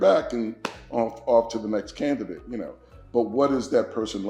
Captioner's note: claps